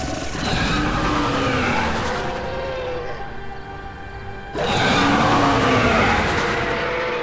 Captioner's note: creature roaring; melodic orchestral music